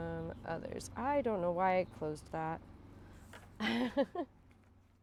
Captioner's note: chuckles